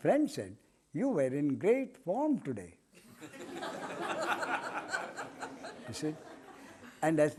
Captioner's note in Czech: smích